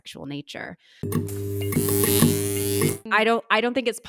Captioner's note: electricity buzzing